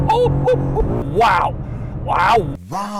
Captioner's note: reversed